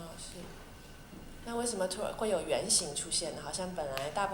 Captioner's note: Mandarin; Mandarin